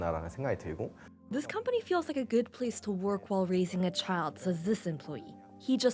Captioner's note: speaking Alternate Language